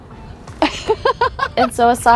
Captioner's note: laughs